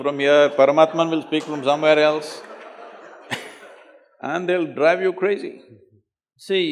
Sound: laughter

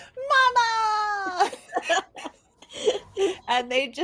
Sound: laughs

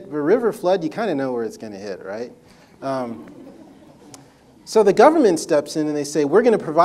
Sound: audience laughter

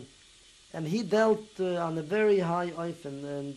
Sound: non-english

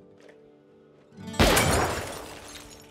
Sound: gunshot

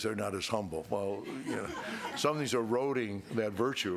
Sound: crowd laughing

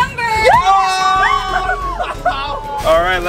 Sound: screams

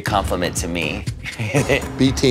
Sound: laughs

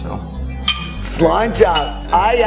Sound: classes clink

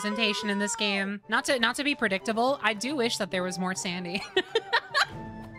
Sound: laughter

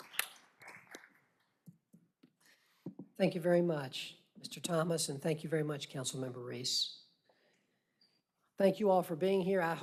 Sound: applause

